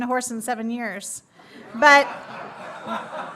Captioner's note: laughter